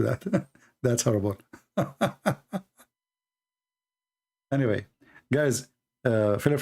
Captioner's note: Ketawa